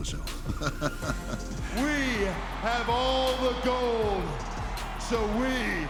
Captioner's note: laugh